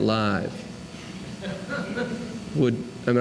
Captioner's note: laughter